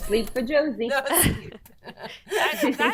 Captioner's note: doctors laughing